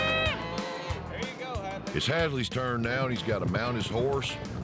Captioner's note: calf moos